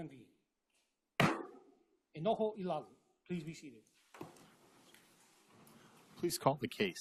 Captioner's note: gavel bangs once